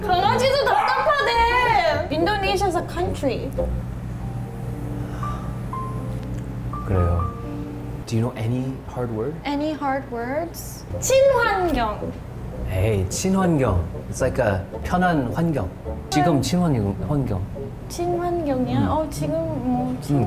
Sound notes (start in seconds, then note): 5.0 sighs